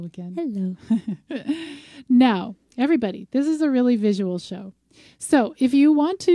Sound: laughs

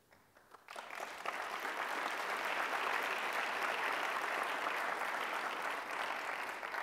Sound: applause

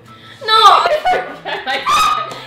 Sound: laughing; both laughing loudly

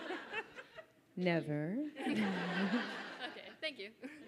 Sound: audience laughs

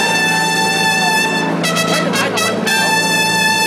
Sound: audience cheers; horn blowing

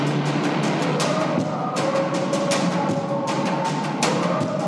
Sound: dramatic music; people shouting

